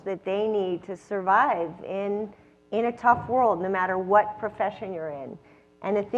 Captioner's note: none